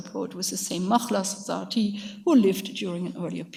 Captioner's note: speaks in a foreign language